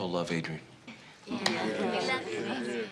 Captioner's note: crowd murmuring